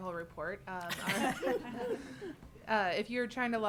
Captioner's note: board laughing